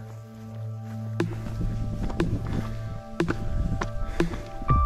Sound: panting

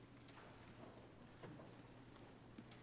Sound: none

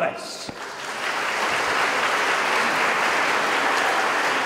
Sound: audience applauding

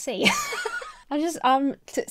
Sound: laughing

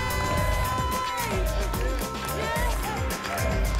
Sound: audience chants "tammy"

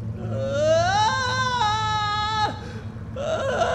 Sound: screaming

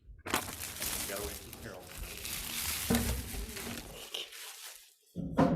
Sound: board members chattering

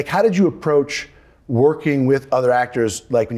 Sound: none

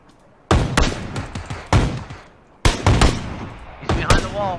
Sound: gunfire

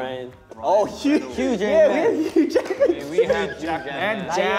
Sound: laughs

